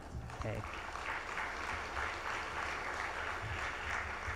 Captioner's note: audience applauds